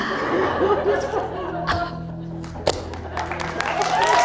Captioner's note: laughs; audience applauds